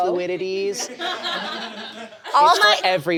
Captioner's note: audience laughs